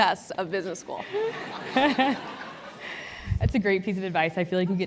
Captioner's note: laugh